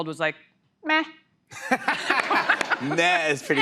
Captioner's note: laughter